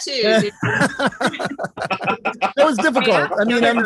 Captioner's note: laughter